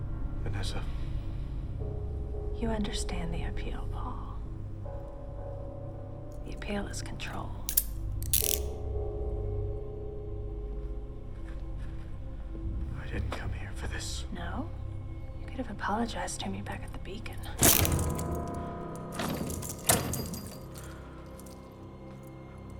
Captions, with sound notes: Vanessa. - You understand the appeal, Paul. The appeal is controlled. (handcuffs click) (suspenseful music) - I didn't come here for this. - No? You could have apologized to me back at the Beacon. (chains rattling) (suspenseful music)